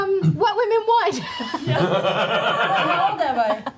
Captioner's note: laughter